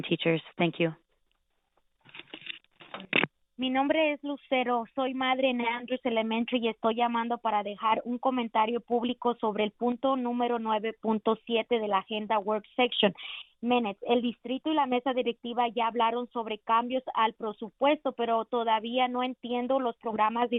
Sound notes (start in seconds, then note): 6.4 speaking spanish